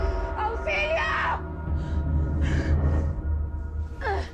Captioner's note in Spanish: Gemidos